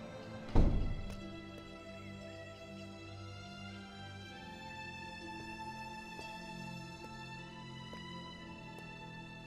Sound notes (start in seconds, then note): 0.4 door closing; 3.0 soft dramatic music